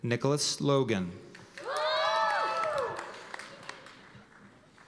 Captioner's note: cheers and applause